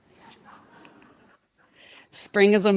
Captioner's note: participants laugh